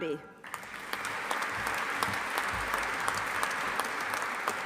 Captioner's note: audience applauding